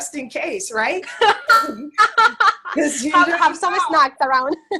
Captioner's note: laughs